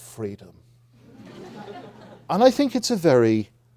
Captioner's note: audience laughing